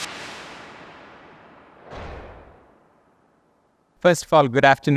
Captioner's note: graphic whooshing